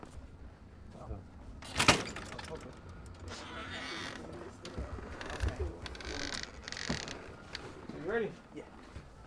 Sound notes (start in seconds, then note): 1.6 door opens